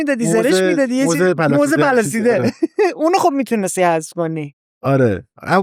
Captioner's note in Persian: خنده